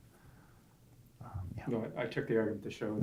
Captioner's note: voiceover